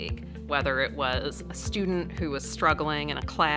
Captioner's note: none